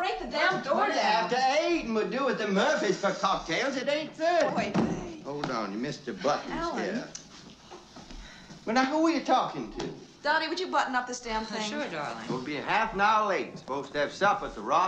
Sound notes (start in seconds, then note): 6.6 clicks Tongue